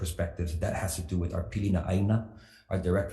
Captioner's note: speaks foreign language